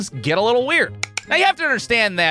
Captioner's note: click!